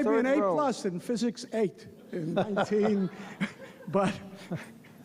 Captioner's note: laughs